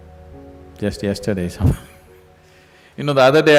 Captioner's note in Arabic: ضحك